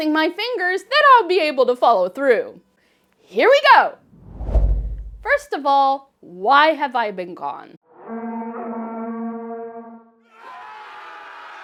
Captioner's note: whoosh